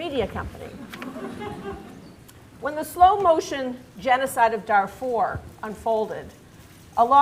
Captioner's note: laughter